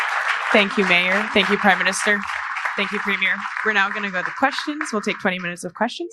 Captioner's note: applause